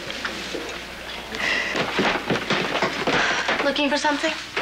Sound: sighs

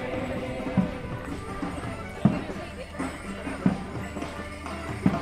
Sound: chattering; lively music; bells jingling

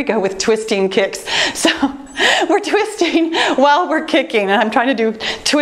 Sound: laughing

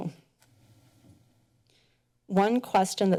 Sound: pause

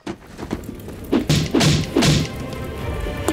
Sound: axe banging; dramatic music

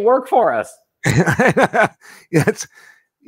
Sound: laughing

